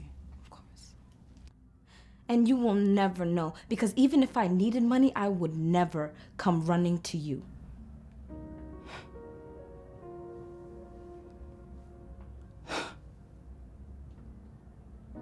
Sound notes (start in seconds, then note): 7.4 musical score - emotional; 12.6 sighs of disbelief